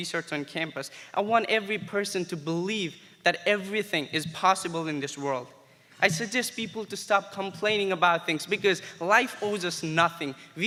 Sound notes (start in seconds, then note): none